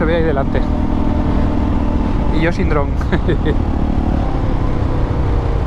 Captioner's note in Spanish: risas